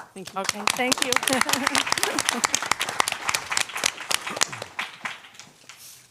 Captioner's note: applause